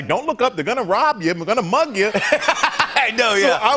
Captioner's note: laughs